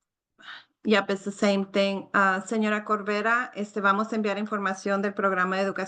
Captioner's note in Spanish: habla en español